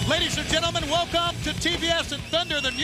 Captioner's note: crowd cheering